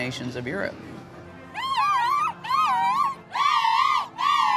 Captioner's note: crowd cheering